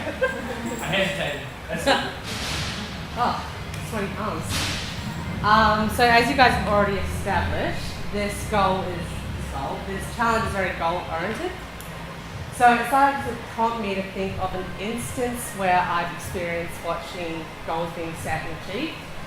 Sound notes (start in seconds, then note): 0.0 laughing